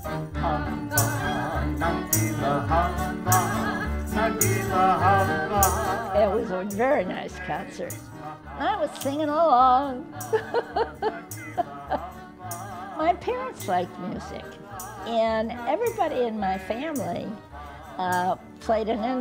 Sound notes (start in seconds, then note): 10.2 laughter